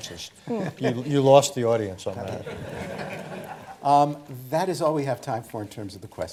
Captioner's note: laughter